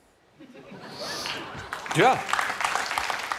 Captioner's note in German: Applaus des Publikums